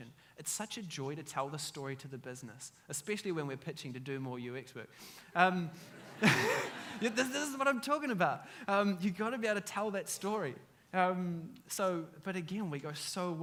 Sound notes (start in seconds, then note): 5.8 audience laughs